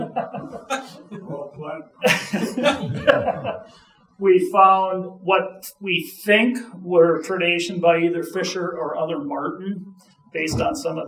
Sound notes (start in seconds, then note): 0.0 audience laughing; 2.0 audience chuckling